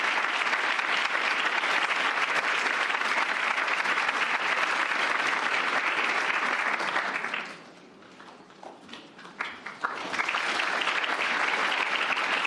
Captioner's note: applause